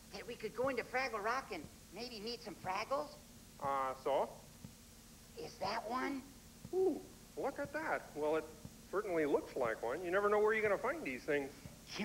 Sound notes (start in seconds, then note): none